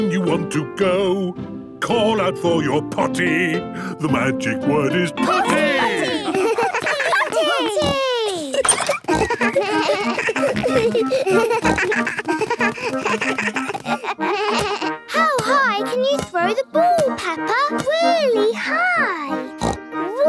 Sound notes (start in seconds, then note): 8.9 giggles; 11.6 snorts, bleating